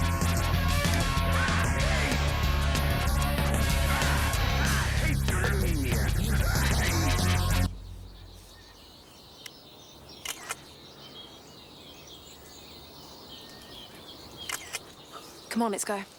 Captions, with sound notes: (camera shutter clicking) - Come on, let's go.